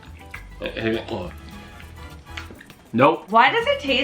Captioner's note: gags